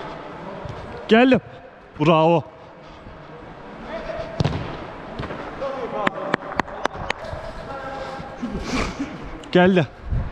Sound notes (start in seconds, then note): 6.0 clap